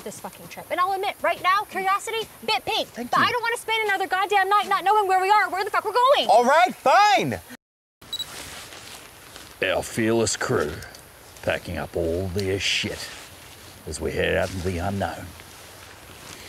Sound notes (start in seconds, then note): 8.1 camera beep; 8.9 narrating in dramatic voice